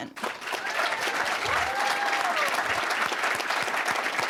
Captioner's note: cheering, applause; applause